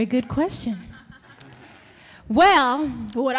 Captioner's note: audience laughing